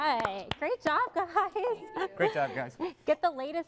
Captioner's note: applause